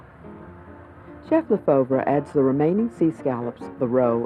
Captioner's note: voiceover